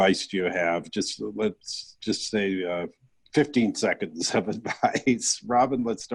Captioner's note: chuckling